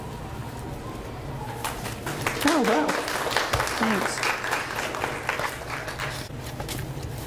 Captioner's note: audience applauds